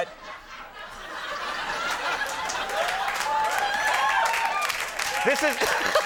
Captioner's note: audience laughing and clapping